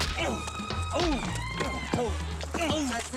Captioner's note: grunting